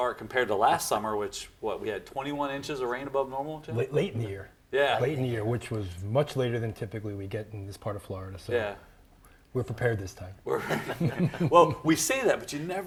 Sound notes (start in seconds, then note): 10.5 people chuckling